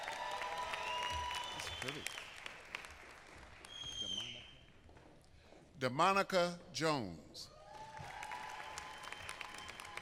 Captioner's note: applause